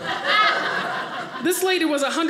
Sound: audience laughing

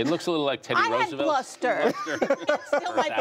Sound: laughter

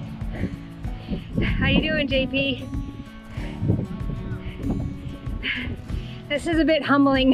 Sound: breathing heavily

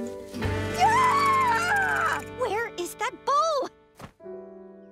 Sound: screaming

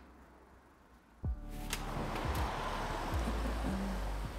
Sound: none

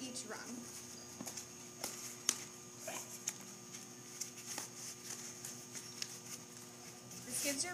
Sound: rustling

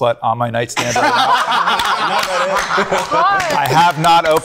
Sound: group laughing

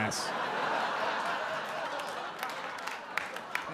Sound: audience laugh

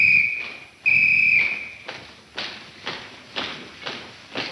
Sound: marching; whistle tweeting

